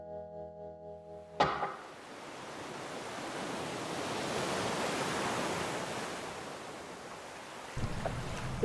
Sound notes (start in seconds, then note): 1.6 wind blowing; 5.2 waves crashing